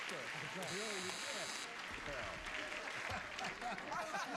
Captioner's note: buzzer; laughter